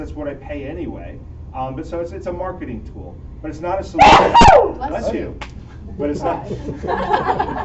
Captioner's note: laughter